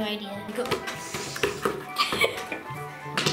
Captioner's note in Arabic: يستنشق، والتنصت; الضحك